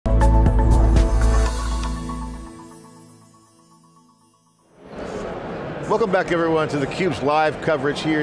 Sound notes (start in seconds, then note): 0.1 bright music; 0.8 logo whooshes; 4.8 attendees chattering